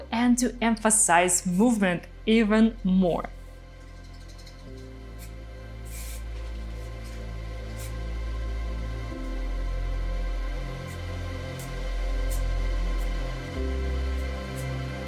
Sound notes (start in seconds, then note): 7.3 gentle music; 7.3 spray paint hisses